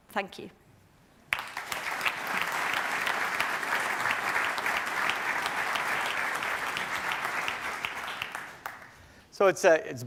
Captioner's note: applause